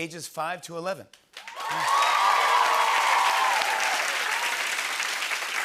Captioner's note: cheers and applause